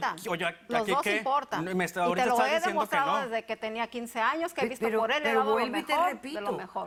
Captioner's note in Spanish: Hablan al unísono